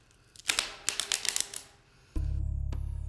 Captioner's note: wood snapping